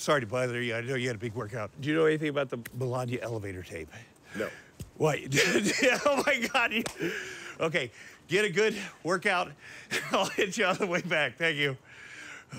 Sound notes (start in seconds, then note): 5.2 laughs